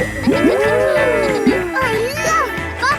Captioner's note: kids gasping and laughing